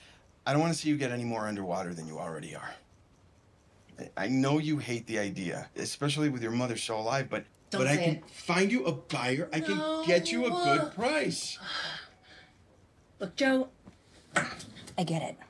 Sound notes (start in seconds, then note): 11.6 sighs